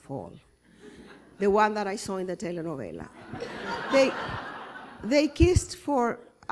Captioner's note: laughter